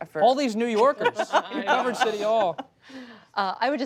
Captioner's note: laughter